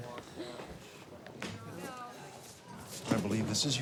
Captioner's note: students murmuring